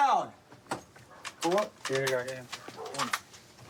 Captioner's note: none